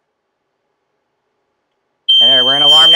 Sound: squeal

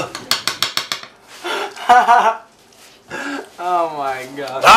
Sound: spoon tapping rapidly; laughs

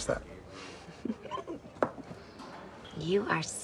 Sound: Angelyne chuckles

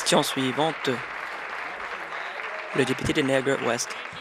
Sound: applause

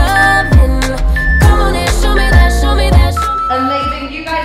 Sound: timer beeping

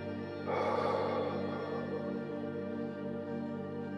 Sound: exhales

